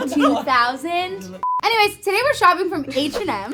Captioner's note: beep